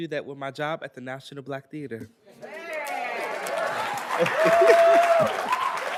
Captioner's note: attendees applauding